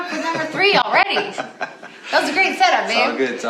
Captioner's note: laughs